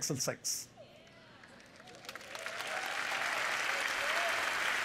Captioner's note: cheers and applause